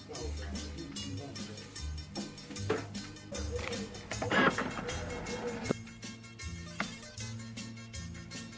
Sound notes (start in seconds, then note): 4.0 opening of the trunk